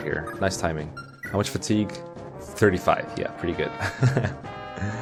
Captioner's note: laughs